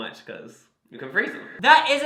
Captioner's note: echoing